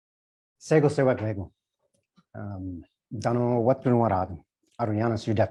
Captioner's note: speech in indigenous language